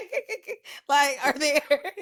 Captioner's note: laughs